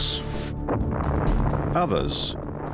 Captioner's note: explosion